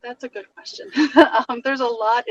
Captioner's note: laughs